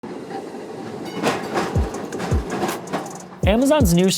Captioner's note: vehicles clinking